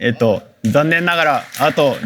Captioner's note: applause